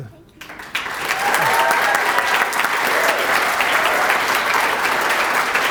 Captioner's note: applause